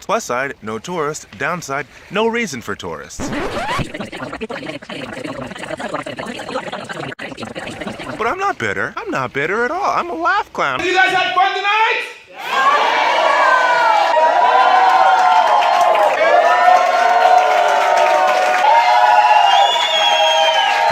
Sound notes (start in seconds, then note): 3.1 record scratch; 3.2 sped up audio; 7.5 record scratch; 12.4 cheers and applause